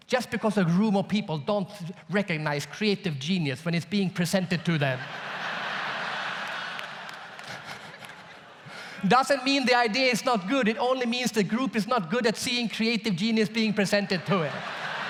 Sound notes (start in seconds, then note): 4.6 audience laughs; 7.3 laughs